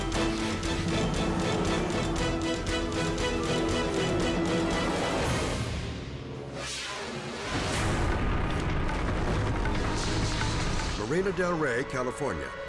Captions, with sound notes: (dramatic music continues) (graphic whooshes) (tense music) (fire crackling) Marina del Rey, California.